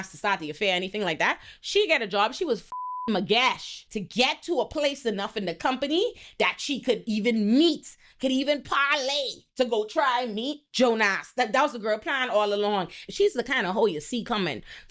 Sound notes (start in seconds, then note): 2.7 beep